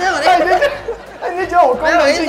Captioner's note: laughing